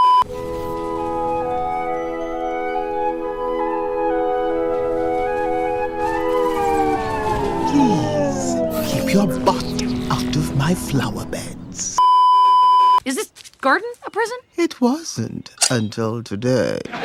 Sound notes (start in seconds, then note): 12.0 beeeeeep